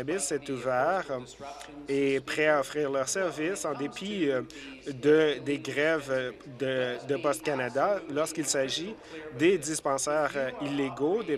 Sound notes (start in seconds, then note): none